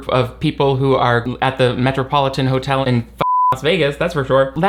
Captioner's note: beep